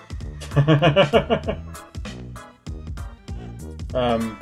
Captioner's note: laughs